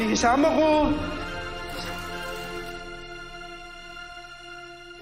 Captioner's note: camera shutters clicking